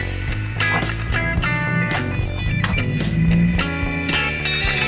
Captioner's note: lock clatters